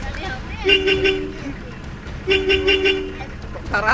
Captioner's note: vehical horn!